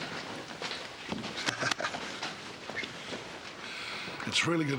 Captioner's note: chuckles